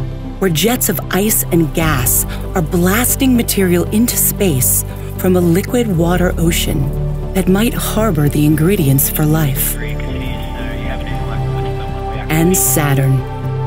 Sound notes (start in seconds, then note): 9.7 mission audio